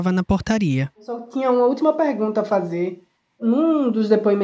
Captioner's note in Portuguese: por telefone